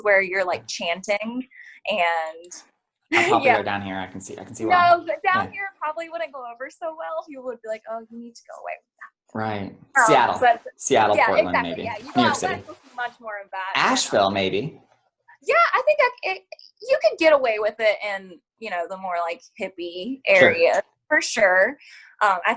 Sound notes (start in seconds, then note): 9.4 murmurs